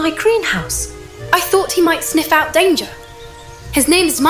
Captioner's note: happily